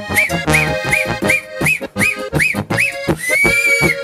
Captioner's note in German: Pfeift